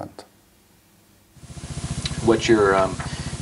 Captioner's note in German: englisch